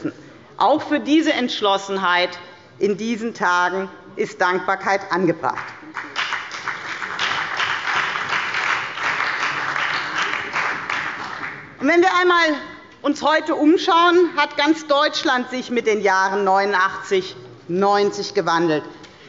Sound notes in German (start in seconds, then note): 5.6 Beifall bei der FDP, der CDU, der SPD und dem BÜNDNIS 90/DIE GRÜNEN